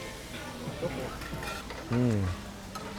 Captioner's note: food sizzling